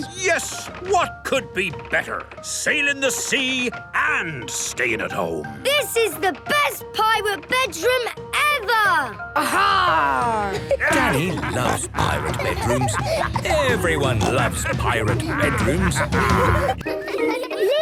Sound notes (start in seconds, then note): 10.1 laughter; 16.0 laughter